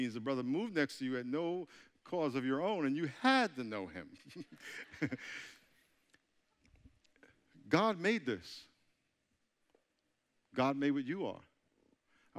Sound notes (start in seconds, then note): 4.1 chuckling